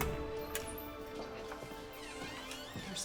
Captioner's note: door creaks